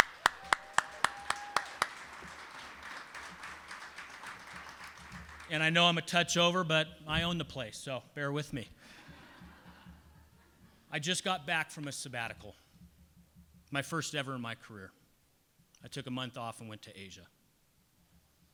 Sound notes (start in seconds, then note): 0.0 people applauding and cheering; 8.9 people laughing